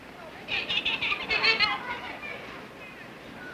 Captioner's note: children laughing